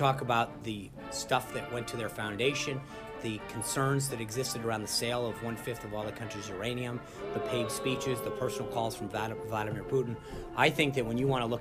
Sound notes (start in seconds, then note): 7.1 boo track